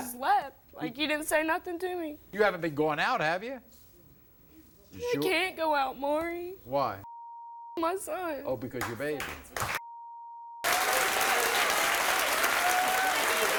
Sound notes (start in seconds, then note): 10.6 audience applauds